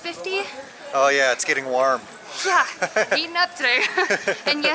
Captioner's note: laughter